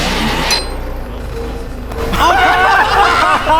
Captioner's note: machine whirring; friends laughing